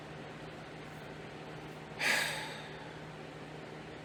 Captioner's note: sighs